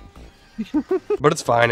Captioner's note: chuckling